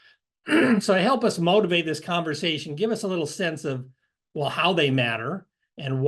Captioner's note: cough